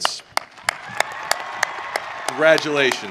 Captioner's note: audience cheering